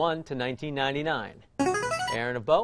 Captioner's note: chiming